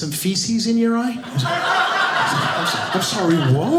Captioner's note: audience laughing